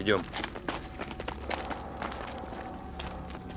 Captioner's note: sound of footsteps